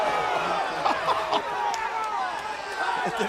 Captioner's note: announcer laughing